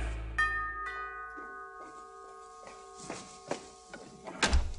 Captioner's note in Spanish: Timbre de la puerta